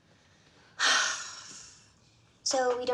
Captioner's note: sighs heavily